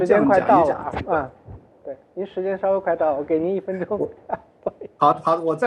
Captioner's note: laughs